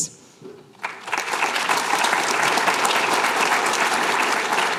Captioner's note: applause